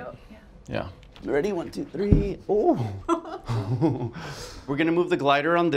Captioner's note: laugh